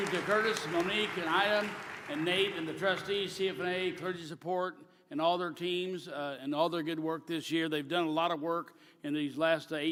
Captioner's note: applause